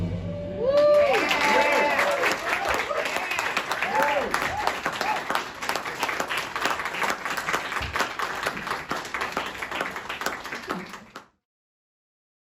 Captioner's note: cheers and applause